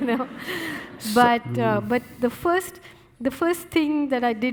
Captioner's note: audience laughing